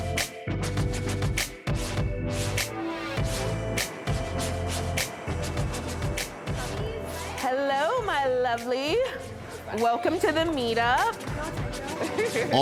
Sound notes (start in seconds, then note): 3.5 traffic droning